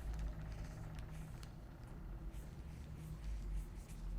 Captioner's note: pen scribbling